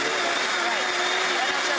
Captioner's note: blender hums